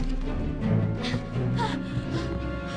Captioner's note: frantic breathing